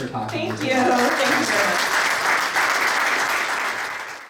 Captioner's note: audience applauds